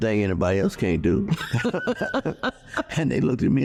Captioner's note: laughing